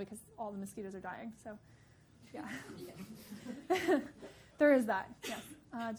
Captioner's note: audience laughing